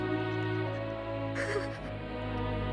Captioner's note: sobbing